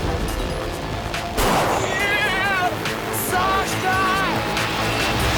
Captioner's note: gunshot